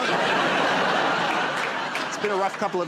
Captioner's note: laughter